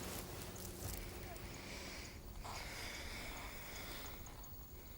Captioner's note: Ura sighs